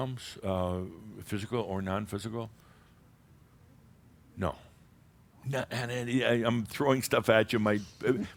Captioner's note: audience murmurs a few responses